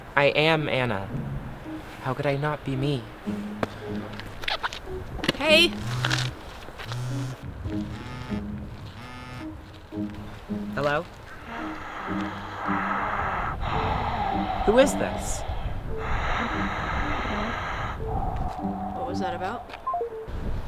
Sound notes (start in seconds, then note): 7.7 phone buzz; 11.2 breathing noises